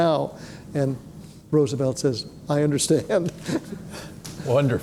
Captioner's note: chuckles